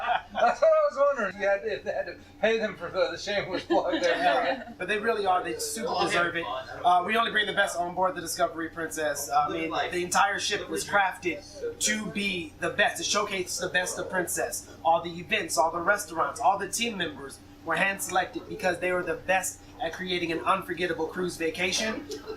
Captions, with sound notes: That's what I was wondering, if you had to pay them for the shameless plug. (Laughter) But they really are, they super deserve it. We only bring the best onboard the Discovery Princess. The entire ship was crafted to be the best, to showcase the best of Princess. And all the events, all the restaurants, all the team members. They were hand selected because they were the best at creating an unforgettable cruise vacation.